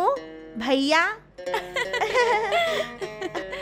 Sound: laughs

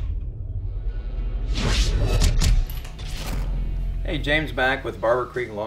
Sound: gun loading sounds

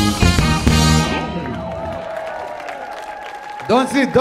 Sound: audience cheering; audience clapping

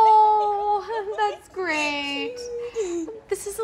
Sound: laughs

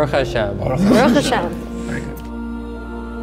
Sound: talking in foreign language; cool music

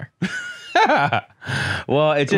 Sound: laughs

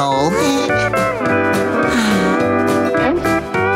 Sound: sighing

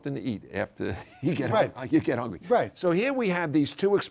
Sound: laugh

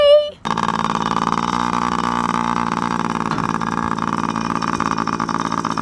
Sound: motorcycle bike engine idling

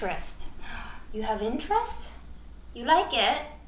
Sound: gasps

